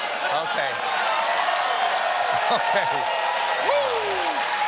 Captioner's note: cheers and applause